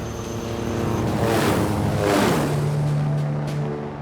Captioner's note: helicopters whirring